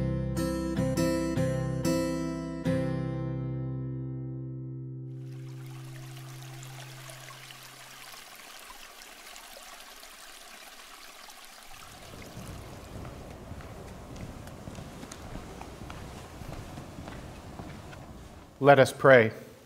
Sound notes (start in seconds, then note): 5.8 water trickling